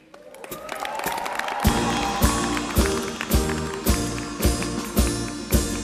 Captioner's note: applause and cheering